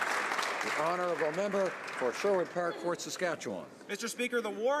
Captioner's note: applause